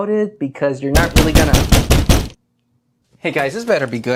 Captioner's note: loud knocking